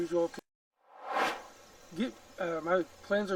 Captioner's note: air swooshes